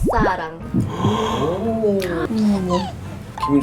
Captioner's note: heart thumps